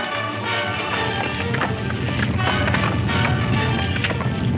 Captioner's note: rock rumbles